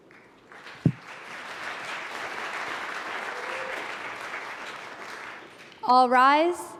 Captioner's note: applause